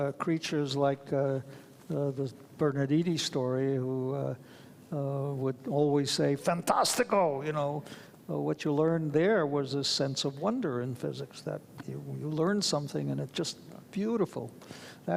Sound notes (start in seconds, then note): 5.1 speaks foreign language